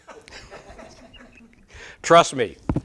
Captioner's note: audience laughs